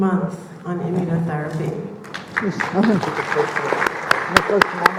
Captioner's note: audience clapping